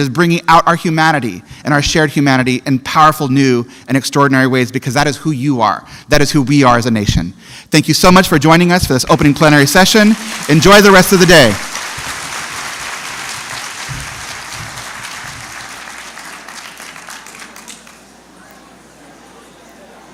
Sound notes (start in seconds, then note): 16.1 applause